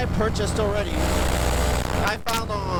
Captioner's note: engine revving